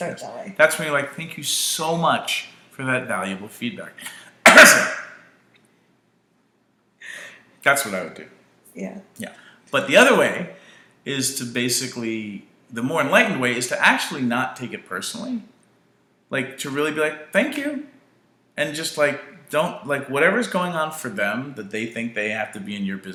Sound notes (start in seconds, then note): 4.4 cough